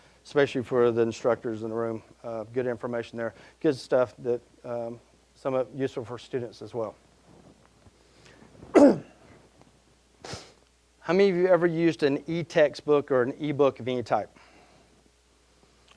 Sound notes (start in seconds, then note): 8.7 coughing